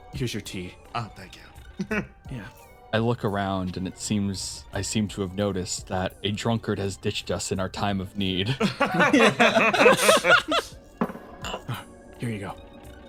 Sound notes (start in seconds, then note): 8.5 laugh